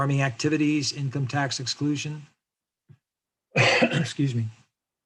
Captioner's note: coughs